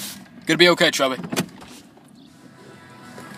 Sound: car stops

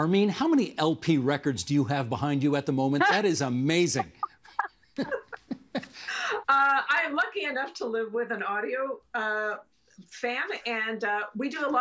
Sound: laughing

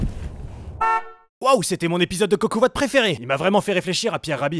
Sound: voiceover

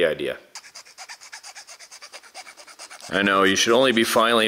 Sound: scraping

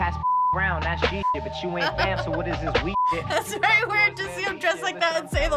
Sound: chuckles

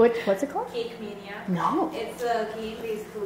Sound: voiceover

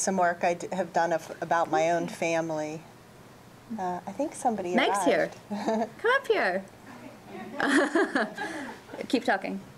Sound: laughter

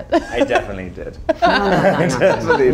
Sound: Robert laughs

